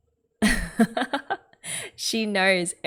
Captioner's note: laughs